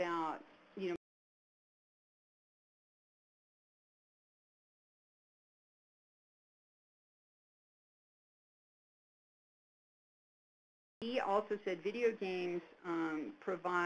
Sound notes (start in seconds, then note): 2.8 silence